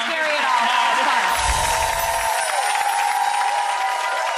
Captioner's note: audience applauds